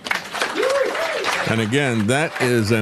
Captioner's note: audience Applauding